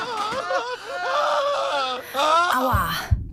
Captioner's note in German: schreien